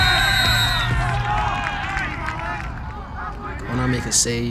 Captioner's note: cheers